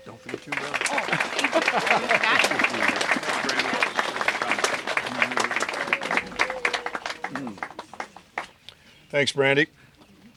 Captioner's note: applause